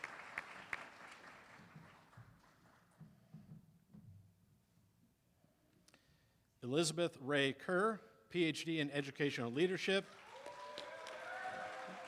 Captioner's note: applause